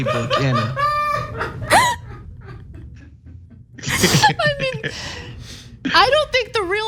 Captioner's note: laugh